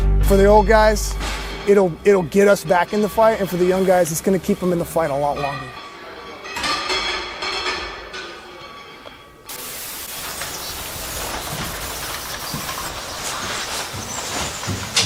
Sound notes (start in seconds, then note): 5.9 weights clanking